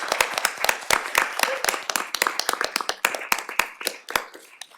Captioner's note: applause